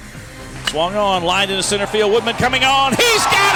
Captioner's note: voiceover